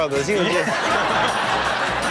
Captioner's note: all laughing; chuckles